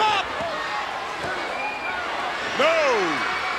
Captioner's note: countdown thudding